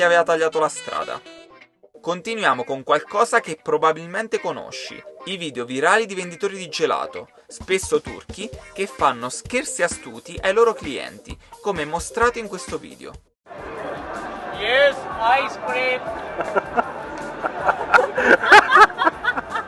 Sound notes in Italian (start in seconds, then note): 15.2 Applauso